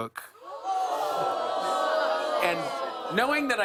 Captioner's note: audience groans